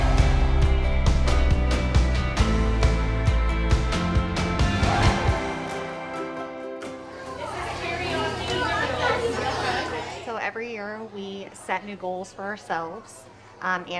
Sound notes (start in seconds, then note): 0.3 upbeat soothing music; 9.3 children chattering